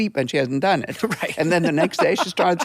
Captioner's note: laughing